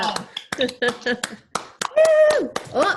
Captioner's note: clapping